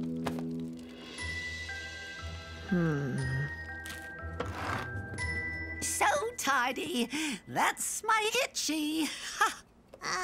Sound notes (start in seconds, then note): 4.4 zipp